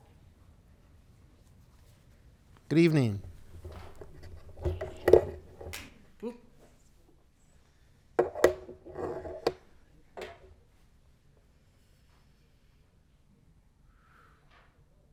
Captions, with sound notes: Good evening. (microphone scratching)